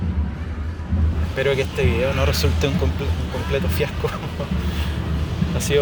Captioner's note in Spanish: risas